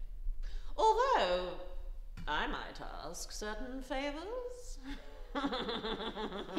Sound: laughing

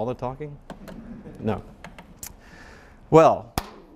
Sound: audience laughing

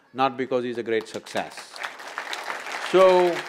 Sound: applause

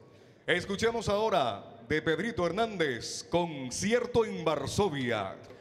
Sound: MC speaking in Spanish

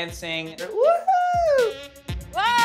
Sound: cheering

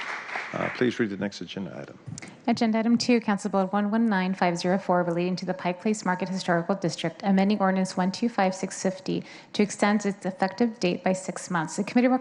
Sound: applause

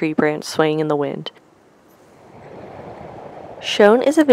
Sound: dried prairie grasses blowing softly in the wind

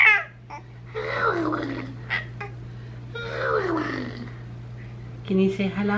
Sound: making animal noises; cooing

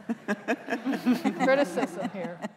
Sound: laughter

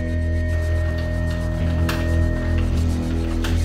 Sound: fingers typing keyboard

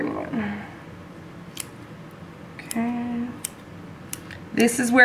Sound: clipping sounds

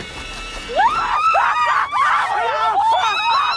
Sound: screaming

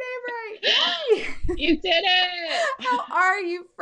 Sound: laughing

